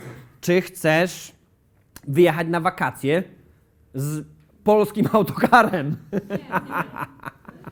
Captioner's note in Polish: śmiech